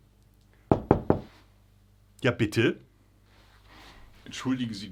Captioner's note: door knocking